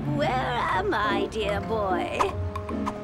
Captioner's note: none